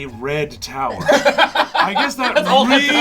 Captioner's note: all laugh